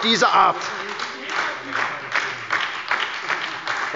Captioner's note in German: Beifall bei der SPD